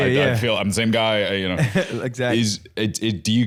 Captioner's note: laughs